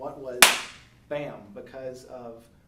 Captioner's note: hands smack